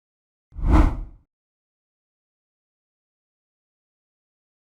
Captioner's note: text whooshing